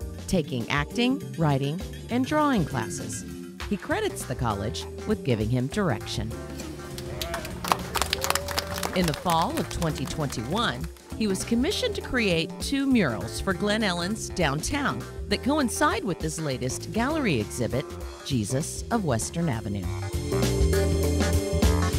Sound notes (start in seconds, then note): 6.9 applause